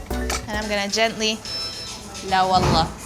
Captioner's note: foreign language